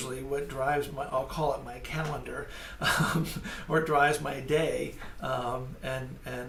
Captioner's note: laughs